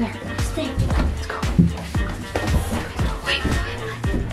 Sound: whispering

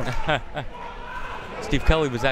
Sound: laughing

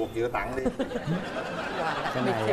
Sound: laughing

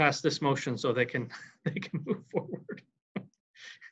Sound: laughing

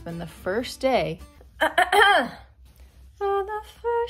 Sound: aggressively clears throat

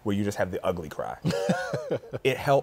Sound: laughs

